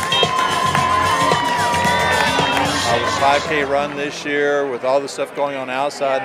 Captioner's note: cheering and applause